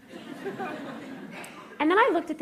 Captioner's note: laughter